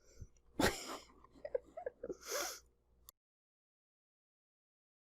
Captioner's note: chuckles